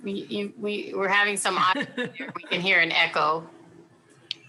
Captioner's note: faintly speaking